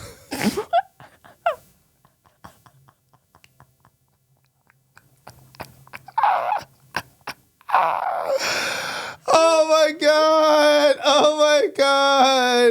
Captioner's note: laughing